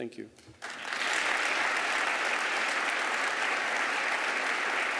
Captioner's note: applause